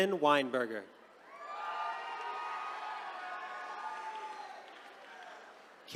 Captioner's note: attendees cheering